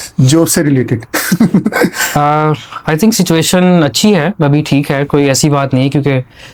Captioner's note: laughter